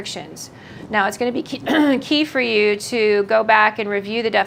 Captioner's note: clears throat